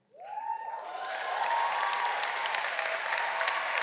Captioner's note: audience cheering